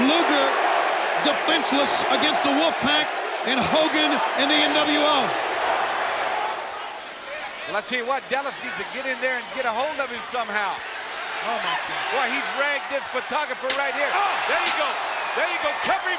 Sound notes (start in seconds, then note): 13.6 chair thudding; 13.6 chair thumping